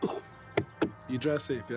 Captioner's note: Tyler laughing; hand thudding